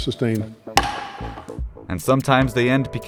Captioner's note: gavel slam